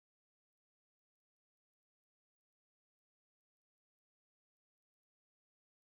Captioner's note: none